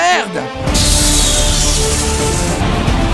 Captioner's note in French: explosion